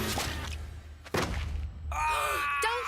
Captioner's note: thudding; Duncan Yelling in Pain